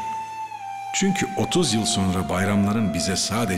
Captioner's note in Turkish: dış ses